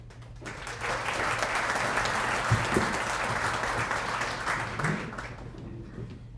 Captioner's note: applause